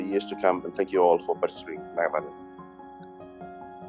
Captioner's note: non-english speech